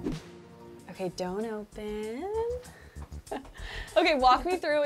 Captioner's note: chuckles